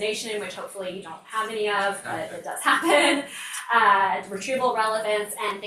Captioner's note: laughs